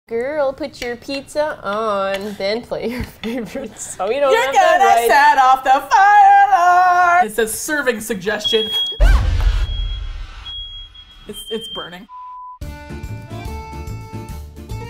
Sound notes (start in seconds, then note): 2.8 laughing; 9.5 fire alarm sounds; 12.6 upbeat Folk Music